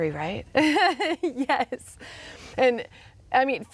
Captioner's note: chuckles